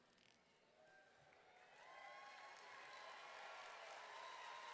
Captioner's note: crowd cheering and applauding